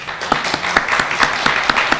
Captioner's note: clapping